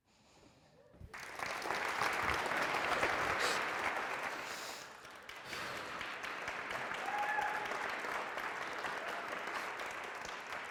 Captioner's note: applause